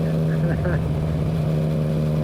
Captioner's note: laughs